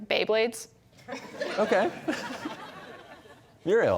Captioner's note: laughter